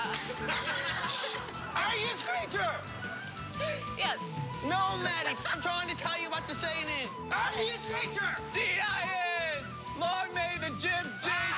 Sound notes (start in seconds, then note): 4.5 lauaughghteter